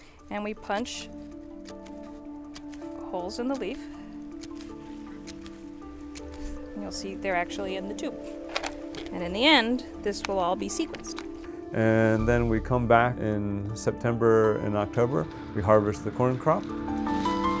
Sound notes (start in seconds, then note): 4.3 hole puncher clicking